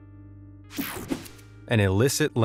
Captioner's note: gentle music; graphic whooshes